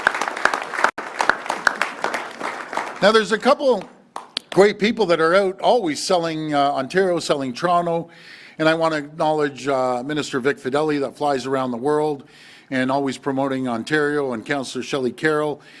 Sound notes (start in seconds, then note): 4.0 applause